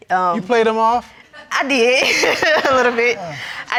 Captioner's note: laughs